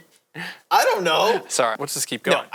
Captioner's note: laughs